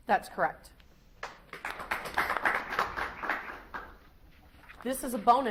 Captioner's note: audience applauds